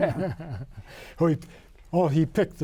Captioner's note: men laughing